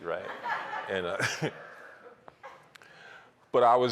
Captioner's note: laughter